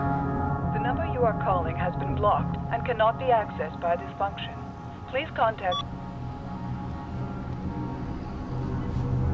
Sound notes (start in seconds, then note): 5.0 beeps